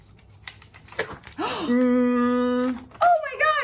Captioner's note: gasp